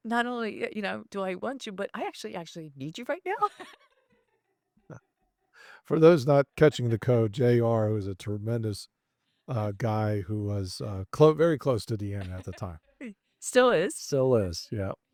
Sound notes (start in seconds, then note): 6.0 laughing; 11.6 laughing